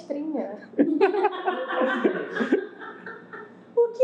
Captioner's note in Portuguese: risos